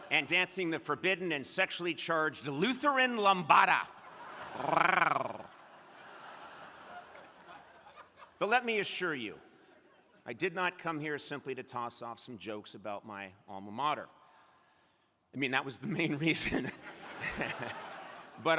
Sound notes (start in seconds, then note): 6.2 crowd laughing; 16.6 crowd laughing